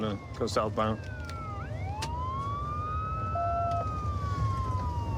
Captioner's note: sirens wailing